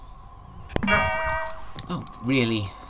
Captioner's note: shunt